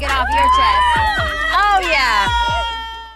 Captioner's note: ladies squealing